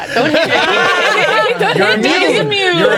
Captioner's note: players laughing